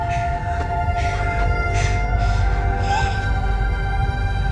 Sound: panting

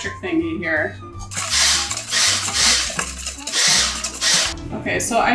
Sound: mixer whirs; immersion blender whirs; whisk scrapes bowl

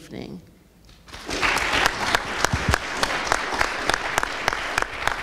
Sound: audience applauds

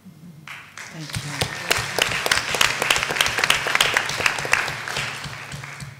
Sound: applause

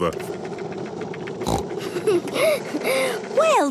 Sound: giggles, snorts

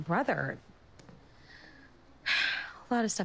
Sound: sighs

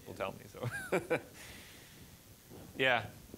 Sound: laughing

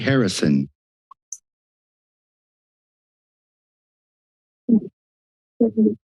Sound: silence

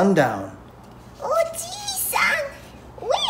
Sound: speaking in Japanese

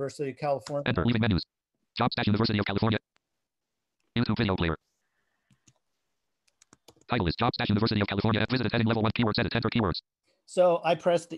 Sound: screen reader reads fast

